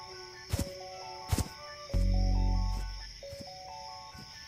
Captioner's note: footsteps pad